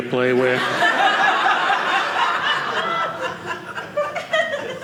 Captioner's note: audience laughing